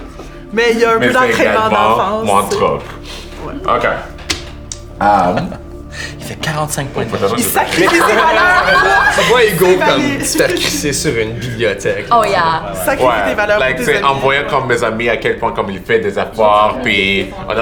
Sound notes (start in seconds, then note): 0.0 laughs; 4.9 laughs; 7.6 laughter